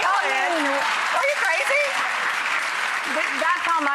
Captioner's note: audience cheering